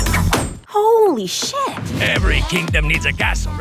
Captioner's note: knife thuds